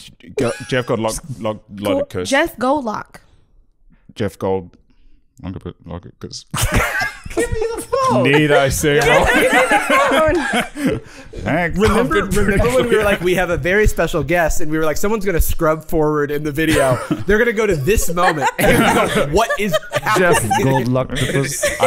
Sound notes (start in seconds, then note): 6.5 laughing